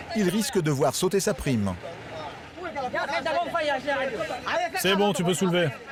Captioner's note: all speaking foreign language